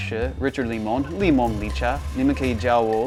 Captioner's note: pronounces in Mandarin